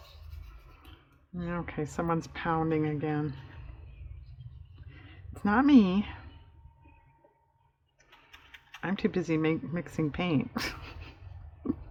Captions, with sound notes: okay someone's pounding again, it's not me i'm too busy mixing paint (laughs)